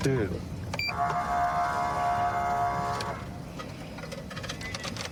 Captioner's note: horn blaring